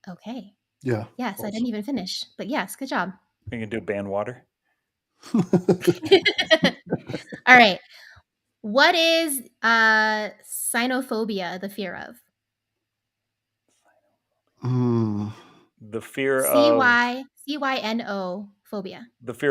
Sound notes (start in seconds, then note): 5.3 everybody laughing